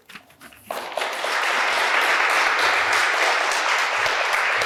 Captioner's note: applause